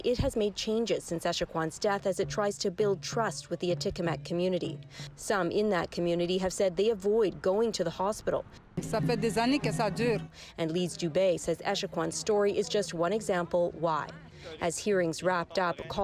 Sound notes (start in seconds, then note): 12.1 speaking French